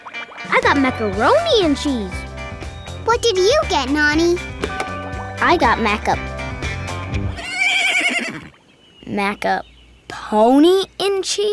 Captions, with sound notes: I got macaroni and cheese. What did you get, Nonny? I got maca... [neighing] Maca-pony and cheese?